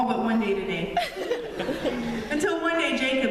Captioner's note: laughter